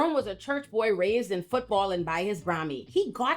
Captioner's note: none